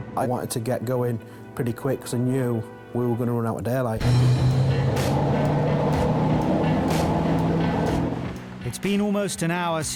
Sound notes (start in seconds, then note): 3.9 bright music; 4.0 engine revving